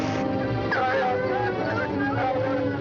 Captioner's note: dogs barking